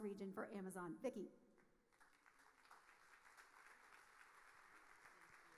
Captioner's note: audience applauding